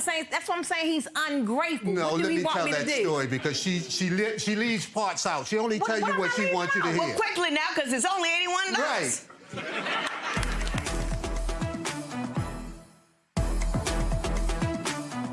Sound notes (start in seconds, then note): 9.3 audience laughs; 11.3 strong music